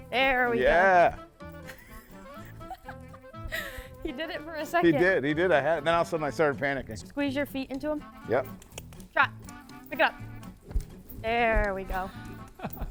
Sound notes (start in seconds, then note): 1.6 instructor laughs; 8.5 clicks tongue; 12.3 people laugh; 12.6 playful music continues